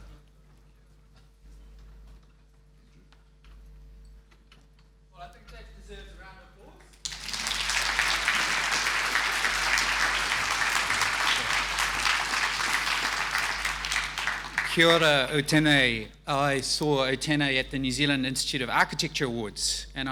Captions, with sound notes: - Well I think that deserves a round of applause. (audience applauding) Kia ora, Otene. I saw Otene at the New Zealand Institute of Architecture Awards,